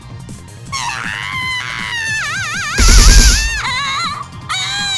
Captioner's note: shriek